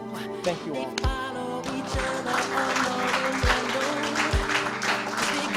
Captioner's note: applause